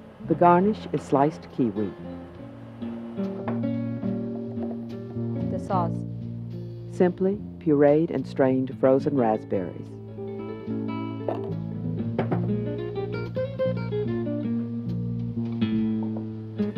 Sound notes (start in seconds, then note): 7.1 voiceover; 13.3 mellow guitar music